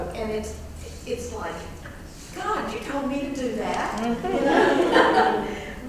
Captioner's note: laugh